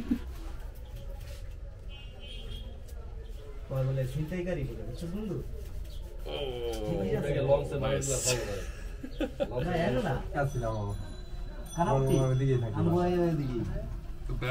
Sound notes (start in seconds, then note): 3.7 people talking randomly